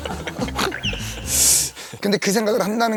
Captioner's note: haha